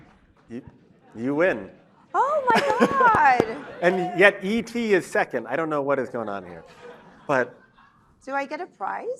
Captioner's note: cheers